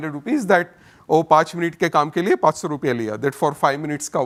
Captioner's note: speaks in Hindi